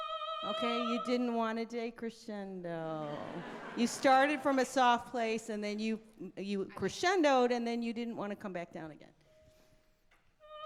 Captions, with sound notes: - Okay, you didn't wanna decrescendo. (all laughing) You started from a soft place and then you crescendo'd and then you didn't wanna come back down again.